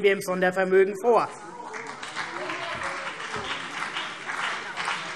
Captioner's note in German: Beifall CDU und BÜNDNIS 90/DIE GRÜNEN